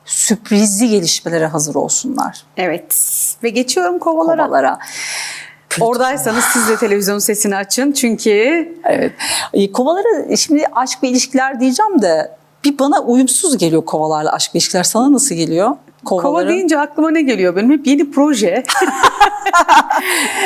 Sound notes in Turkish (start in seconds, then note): 6.0 iç çeker; 18.6 kahkaha